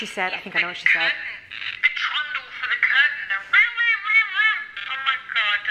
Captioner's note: imitates noise